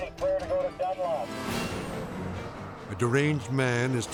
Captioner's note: traffic swooshing